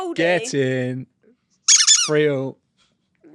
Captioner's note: squeaking